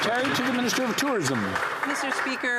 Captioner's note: some Applause